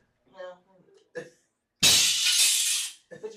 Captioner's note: crash